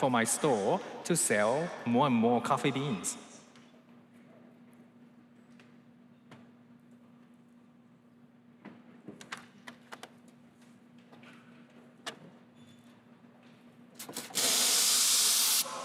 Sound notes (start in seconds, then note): none